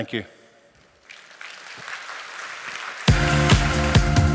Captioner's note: applause